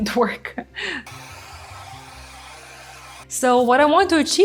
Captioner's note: machine whooshing